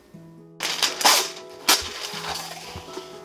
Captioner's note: parchment paper cutting